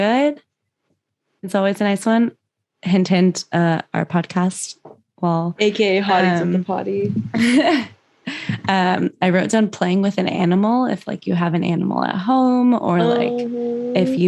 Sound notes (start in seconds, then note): 5.8 laughs